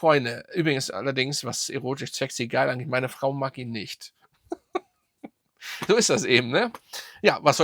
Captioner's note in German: gelächter